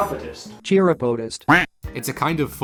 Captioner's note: quack